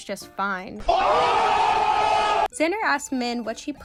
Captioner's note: OHHHHHH guys jumping